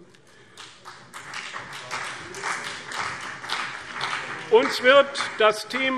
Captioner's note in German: Beifall CDU und BÜNDNIS 90/DIE GRÜNEN